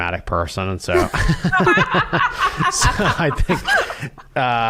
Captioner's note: laughter